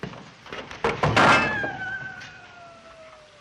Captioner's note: clattering; howling